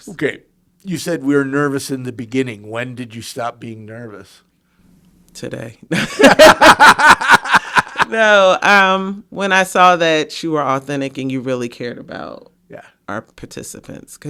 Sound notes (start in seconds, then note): 6.0 everyone laughing